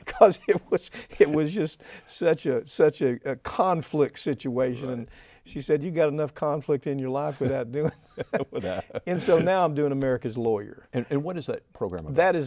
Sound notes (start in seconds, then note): 7.3 both laughing